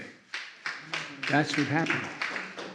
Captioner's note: applause